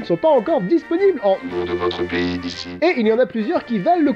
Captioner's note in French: voix robotique